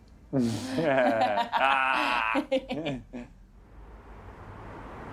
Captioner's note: laughing